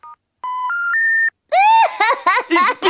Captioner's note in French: rires